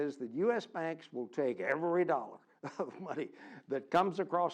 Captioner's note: laugh